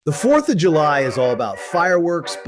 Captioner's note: record scratch + music stops